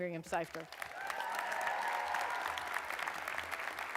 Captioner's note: applause